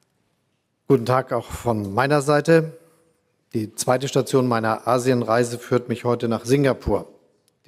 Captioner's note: Chancellor Scholz speaks in German